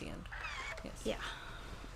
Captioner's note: iron squeaks